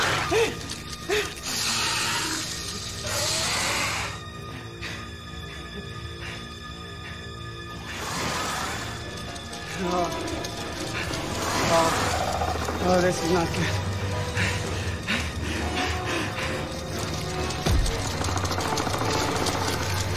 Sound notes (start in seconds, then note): 1.4 centipede squeals; 4.8 breaths heavily; 7.9 centipede squeals; 9.5 scuttling; 13.1 loud panting; 18.1 loud growling